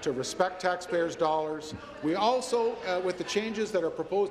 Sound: applause

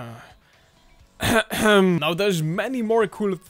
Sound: clears throat

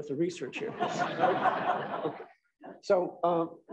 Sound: laughter

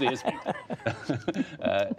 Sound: laughter

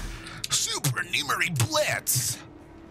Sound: in an exaggerated anime voice

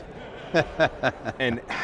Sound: laughing

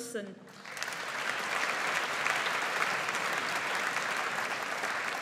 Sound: audience applauds

